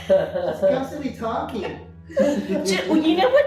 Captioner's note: laughing